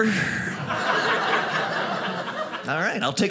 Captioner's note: audience laughing